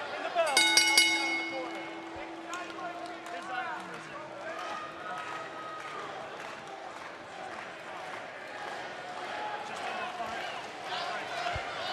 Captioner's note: bell